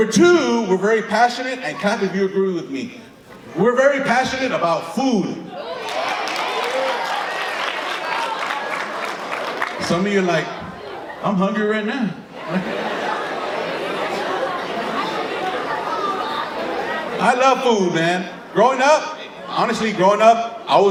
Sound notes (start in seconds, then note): 5.8 audience clapping and agreeing; 12.2 audience laughing